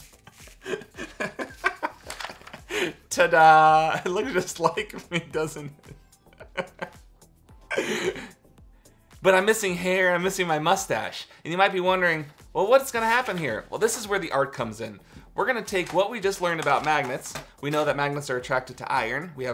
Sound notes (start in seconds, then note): 7.7 laughs